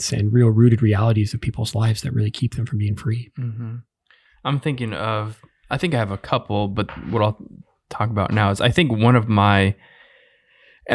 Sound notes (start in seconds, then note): none